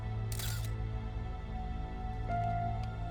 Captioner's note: suspenseful music; camera shutter clicks; suspenseful music